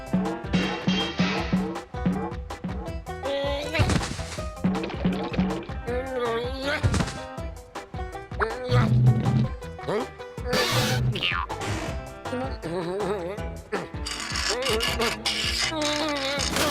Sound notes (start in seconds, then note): 10.2 pipe creaks; 14.0 pipe ratcheting